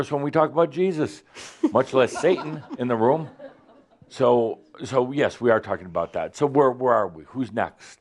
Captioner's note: some chuckles